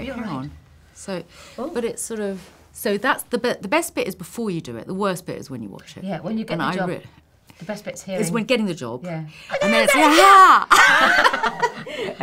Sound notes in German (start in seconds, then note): 10.0 jubeln; 10.6 lachen